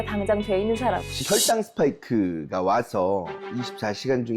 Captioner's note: checking sound effect; serious music